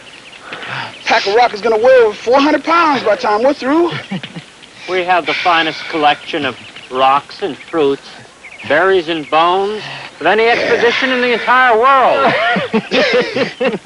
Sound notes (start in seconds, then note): 3.7 laughs; 12.1 laughing